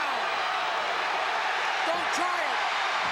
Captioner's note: crowd cheers